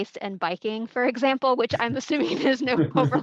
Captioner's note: laughing